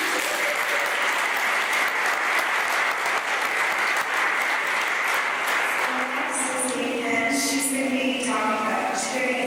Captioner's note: applause